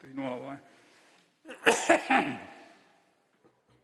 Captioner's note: coughing